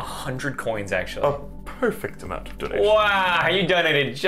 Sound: snob voice

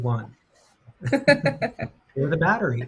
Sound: laughs

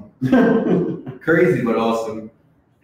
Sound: laughs

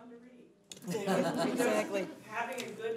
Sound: laughing

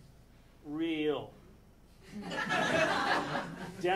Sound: audience laughing

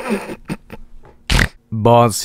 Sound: snorts

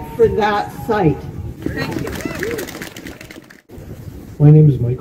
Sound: applause

